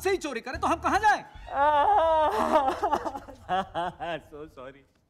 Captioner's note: Imitates crying